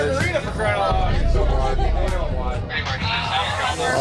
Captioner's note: bar patrons murmuring; beep